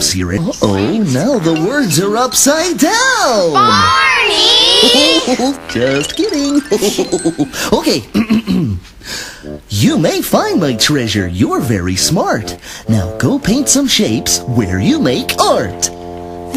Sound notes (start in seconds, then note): 8.1 clears throat; 8.1 chuckle